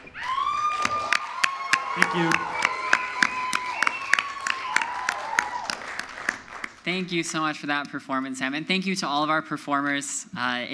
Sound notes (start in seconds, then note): 0.0 audience cheers; 0.0 audience applauds